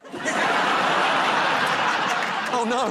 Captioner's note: laughter